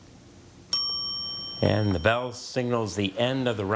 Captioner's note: bell dings